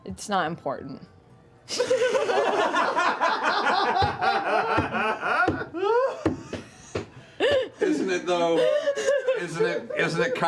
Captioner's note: laughter